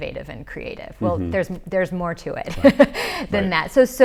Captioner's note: laughs